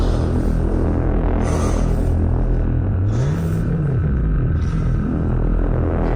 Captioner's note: eerie soundtrack music; Commander Gray panting; eerie soundtrack music